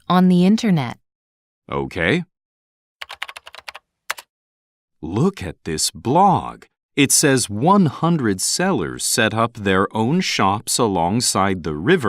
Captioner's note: typing sound